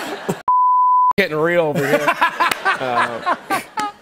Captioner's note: laughter